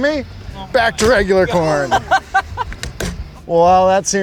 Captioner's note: crew laughs